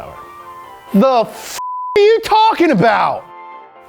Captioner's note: beeps